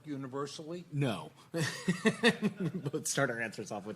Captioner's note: laughing